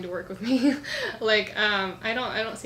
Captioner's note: laughs